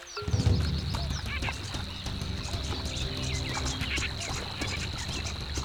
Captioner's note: birds squawking